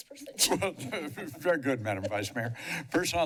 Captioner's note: chuckles